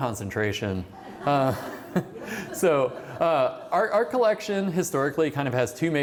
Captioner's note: laughter